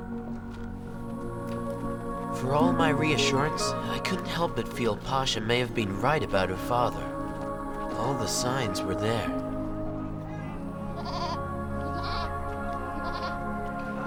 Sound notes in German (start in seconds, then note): 10.9 Schafe weinen